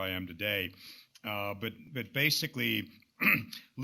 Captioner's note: clears throat